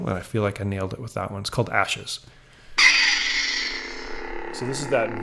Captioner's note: lightsaber sound plays